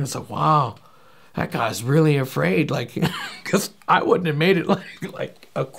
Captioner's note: laughing